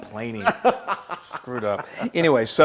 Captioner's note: laugh